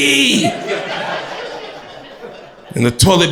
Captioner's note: crowd laughter